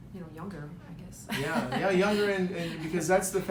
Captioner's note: laughing